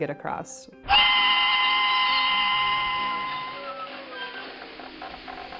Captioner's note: train whistle blowing